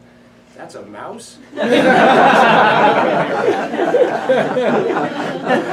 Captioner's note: laughter